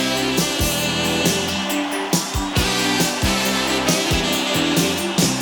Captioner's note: audience cheering; upbeat music